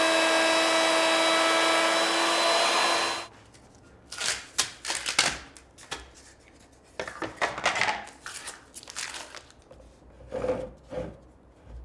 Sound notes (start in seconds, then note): 4.2 wood cracking; 7.0 wood clattering